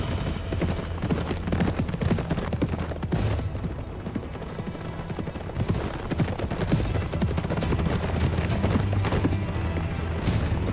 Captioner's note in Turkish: Nal sesleri